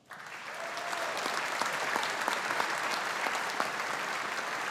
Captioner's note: audience applauding